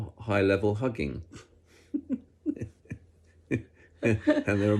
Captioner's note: both laugh